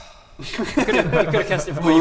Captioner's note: relieved giggles